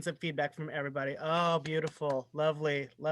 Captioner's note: applause